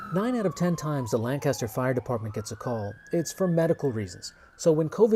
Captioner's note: siren